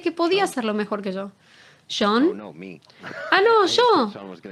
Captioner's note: laughing